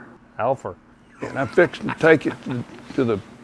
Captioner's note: laughs